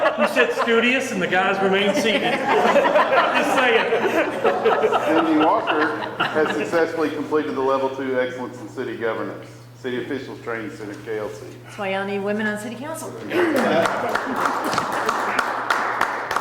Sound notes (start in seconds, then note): 3.8 all laughing; 13.4 people clapping